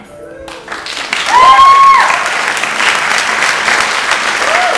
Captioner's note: audience applauding